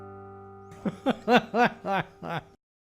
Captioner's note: laughter